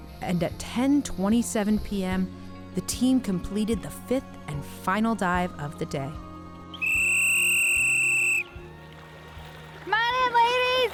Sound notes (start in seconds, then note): 6.7 whistle blows